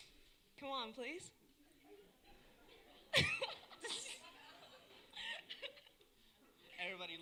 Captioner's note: laughter